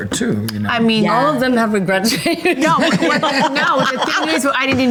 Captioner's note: laughs